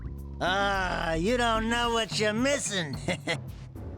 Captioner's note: chuckle